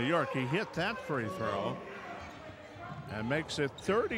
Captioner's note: yelling